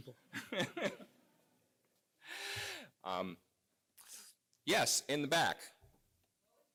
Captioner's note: laugh